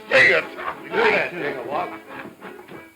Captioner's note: Jinglebob laughs